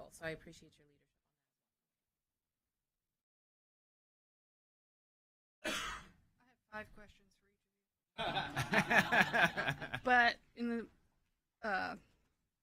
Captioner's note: laughter